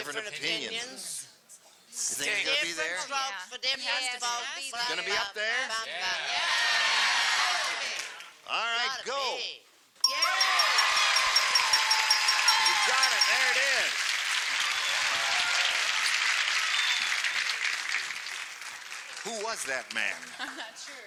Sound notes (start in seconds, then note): 6.2 cheering; 10.0 ding; 15.5 applause